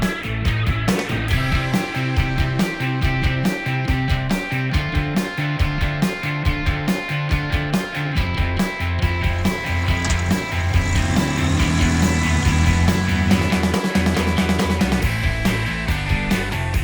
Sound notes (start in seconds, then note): 11.0 motorcycle revving over music